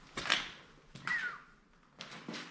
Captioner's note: whistling